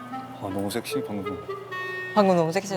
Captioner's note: whispering